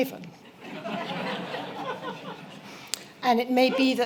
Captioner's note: laughter